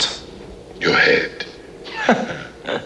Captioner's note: As Connor MacLeod, laughter